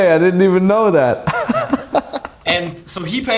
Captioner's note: laughing